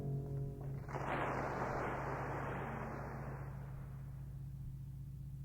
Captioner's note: applause